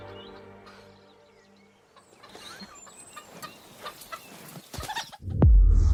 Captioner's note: birds chirping